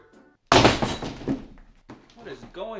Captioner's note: bumping